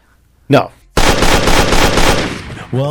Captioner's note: sound of gunshots